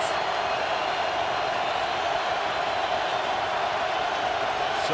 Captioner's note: cheering